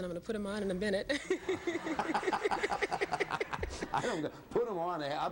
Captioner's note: laughing